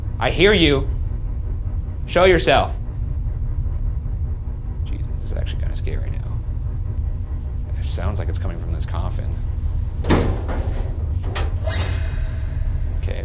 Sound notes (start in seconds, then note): 10.0 metal cover thuds